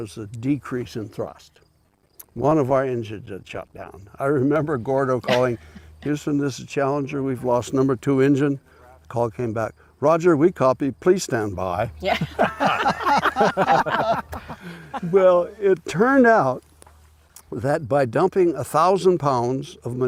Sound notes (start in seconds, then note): 12.0 laughter